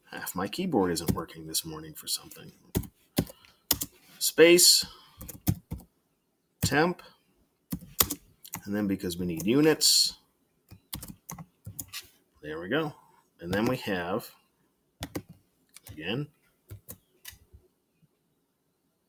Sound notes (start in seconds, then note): 3.7 furious keyboard clicking; 5.2 keyboard clicking; 7.7 keyboard clicking; 10.7 keyboard Clicking; 15.0 keyboard clicking; 17.6 silence